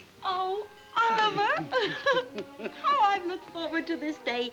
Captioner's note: chuckles